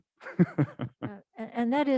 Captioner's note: laughing